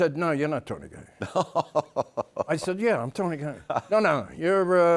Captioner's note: laughs